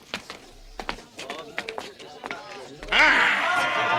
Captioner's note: crowd muttering